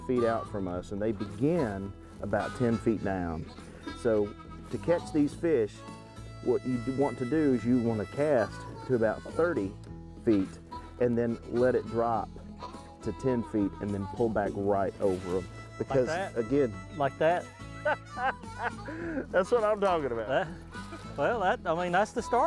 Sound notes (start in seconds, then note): 17.7 laughs